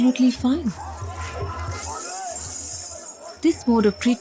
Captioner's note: iron chains clanking